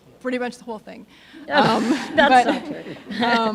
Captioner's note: audience laughing